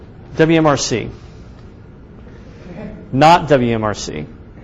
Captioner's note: audience chuckles